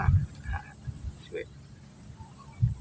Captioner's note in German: lacht